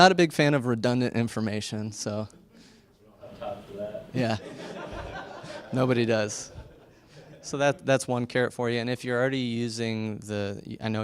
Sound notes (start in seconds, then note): 4.2 laughs